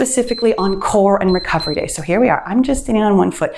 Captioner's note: timer beeps